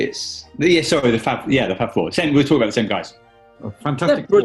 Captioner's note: none